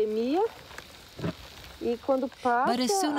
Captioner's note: speaking portuguese